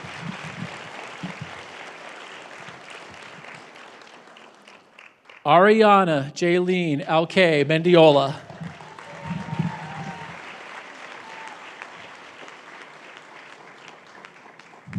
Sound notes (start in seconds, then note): 0.0 speaking spanish; 2.3 cheering and applause